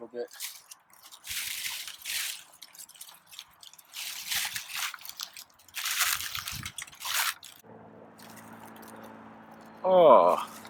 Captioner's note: leaves rustling